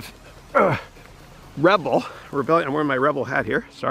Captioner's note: grunting